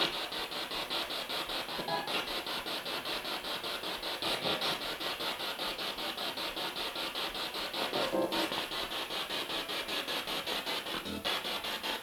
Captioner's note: sound of the Spirit Box in the background